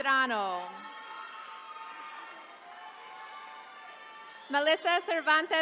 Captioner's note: attendees cheering